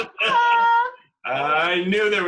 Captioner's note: laughter